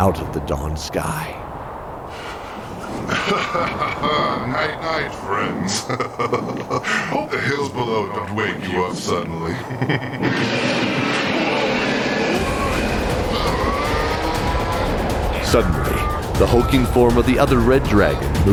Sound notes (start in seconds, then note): 3.7 laughing; 11.9 surprised; 13.9 3 second long strained groan